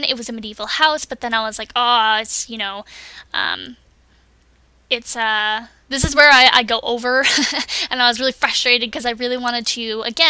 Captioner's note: makes angry noises